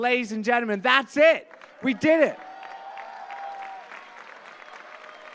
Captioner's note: applause